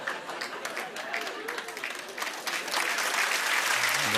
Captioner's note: applause